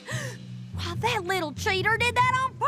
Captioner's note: gasps